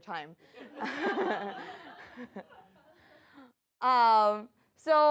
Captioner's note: laughter